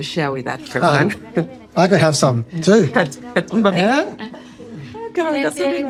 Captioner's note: laughs; both laughing